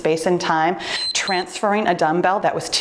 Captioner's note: timer beeps